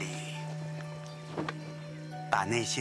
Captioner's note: cloak ruffle